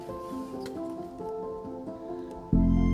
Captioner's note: whoosh of wheels gliding down ramp